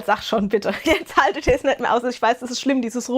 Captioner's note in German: gelächter